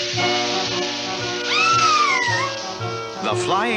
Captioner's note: Sweet Polly Screams